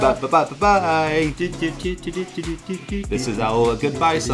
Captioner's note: humming